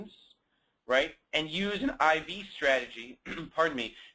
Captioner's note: clears throat